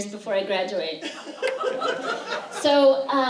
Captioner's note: laughter